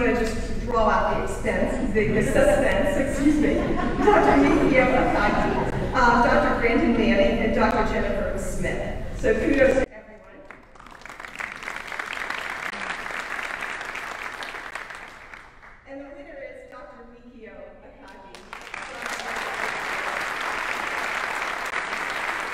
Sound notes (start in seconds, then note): 3.1 audience laughing; 10.3 audience applauding; 18.3 audience applauding